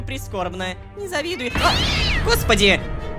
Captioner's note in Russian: Мяукание